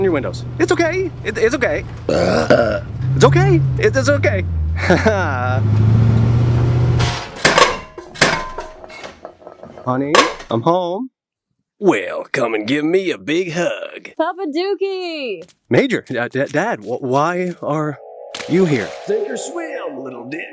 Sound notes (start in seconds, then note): 2.0 burp